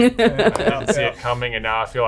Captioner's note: laughing